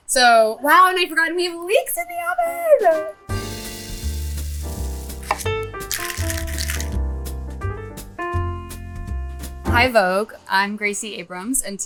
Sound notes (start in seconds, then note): 3.3 food sizzling; 3.4 lively music; 5.2 knife chopping; 5.8 shaker rattling